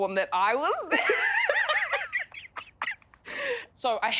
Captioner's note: laughs loudly